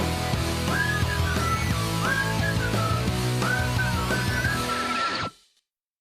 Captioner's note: whistling